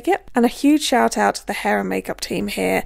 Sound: none

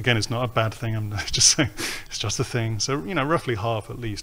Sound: chuckles

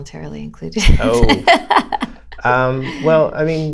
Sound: laughter

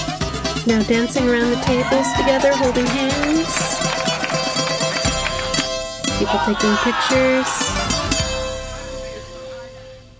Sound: applause

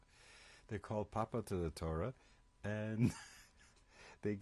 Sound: laughs

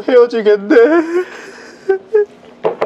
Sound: he started to sob...ㅠㅠ

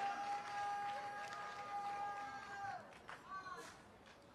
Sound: congregation shouting

